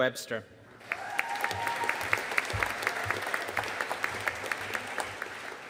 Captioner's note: audience cheering and applauding